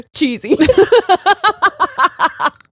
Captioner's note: both laughing